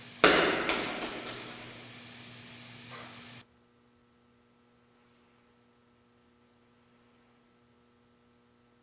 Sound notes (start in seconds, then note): 0.2 ball thudding